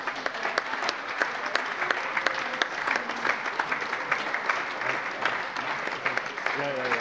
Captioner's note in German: Allgemeiner Beifall - überreicht einen Blumenstrauß